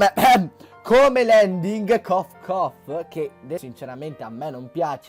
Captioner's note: cough